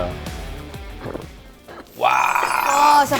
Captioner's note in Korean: 꿀꺽